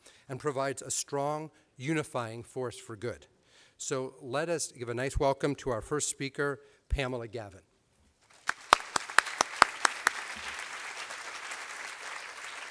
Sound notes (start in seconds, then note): 8.3 applause